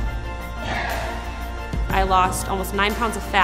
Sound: sighs

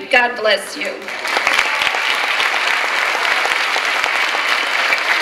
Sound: clapping and cheering

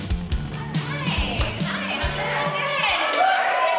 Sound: cheering

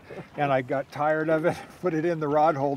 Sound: chuckling

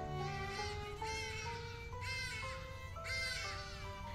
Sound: birds squawking

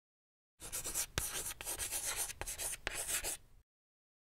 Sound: chalk writing

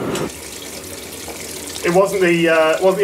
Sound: water running

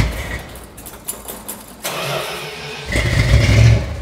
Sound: revs engine; engine starts; engine stops

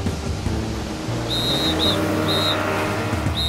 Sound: whistle blowing

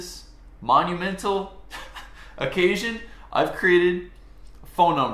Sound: chuckles

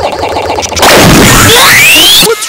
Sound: pop

